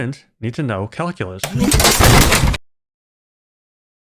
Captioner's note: sound of furniture being kicked